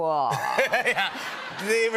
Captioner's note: laughter